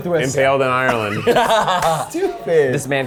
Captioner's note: laughs